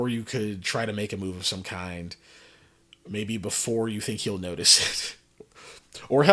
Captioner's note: laughs